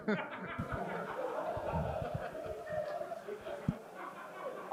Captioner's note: crowd laughs